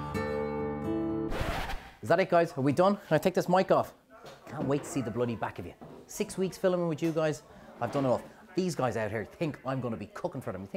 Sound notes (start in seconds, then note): 1.2 record needle scratch